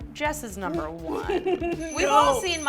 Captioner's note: laughing